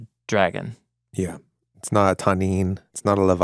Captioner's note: speaking in foreign language